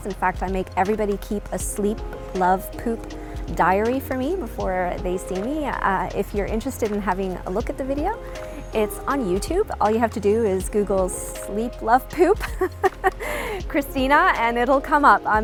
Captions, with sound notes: In fact, I make everybody keep a Sleep, Love, Poop diary for me before they see me. If you're interested in having a look at the video it's on YouTube. All you have to do is google Sleep, Love, Poop (laughing) Cristina. And it'll come up.